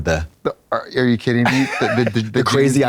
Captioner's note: Katya giggles